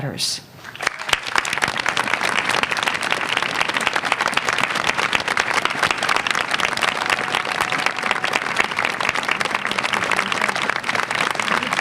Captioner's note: applause